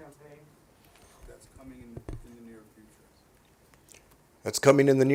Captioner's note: off-scene